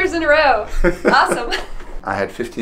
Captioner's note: laughs